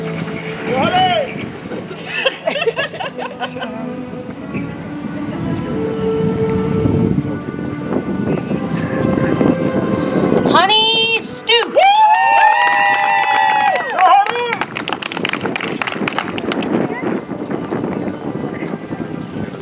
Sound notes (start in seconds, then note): 15.6 audience applauds